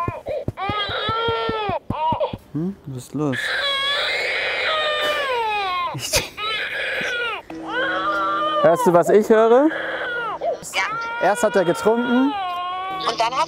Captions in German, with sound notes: (Baby schreit.) Was ist los. (Baby schreit lauter.) Hörst du, was ich höre? - Ja. Erst hat er getrunken.